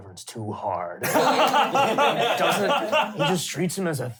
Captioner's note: laughing